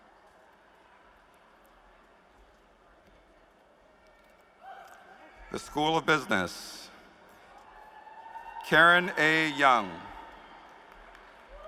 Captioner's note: applause